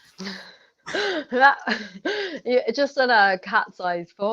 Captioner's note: laughter